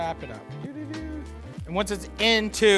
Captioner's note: trills